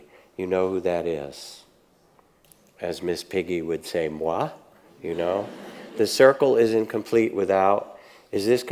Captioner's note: audience laughs